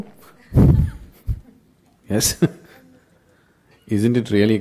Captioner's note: laughs